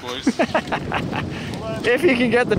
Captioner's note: laughing